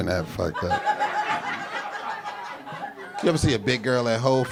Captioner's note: audience laughing